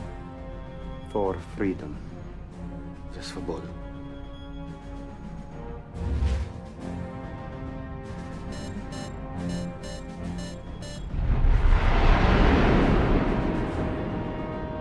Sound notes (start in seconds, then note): 3.0 speaking russian; 11.2 rocket launch